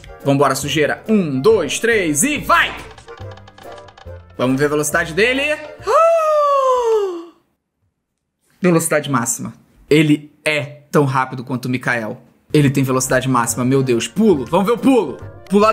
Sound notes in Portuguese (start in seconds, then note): 5.8 faz som de surpresa